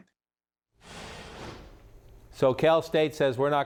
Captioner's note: whoosh noise